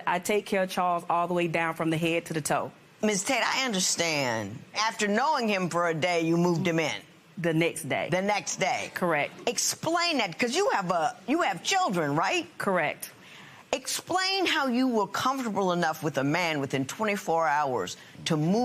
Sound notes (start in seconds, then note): none